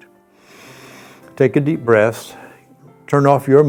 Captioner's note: inhaling